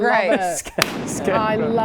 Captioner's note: boom